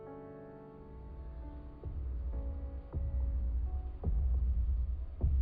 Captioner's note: foot steps approaching